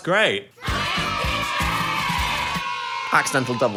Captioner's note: crowd cheering; upbeat music